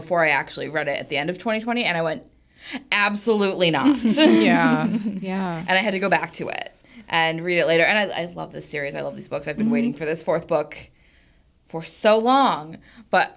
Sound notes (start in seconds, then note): 3.8 speakers chuckle